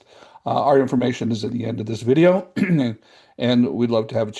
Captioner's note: coughs